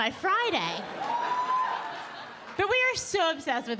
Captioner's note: audience cheering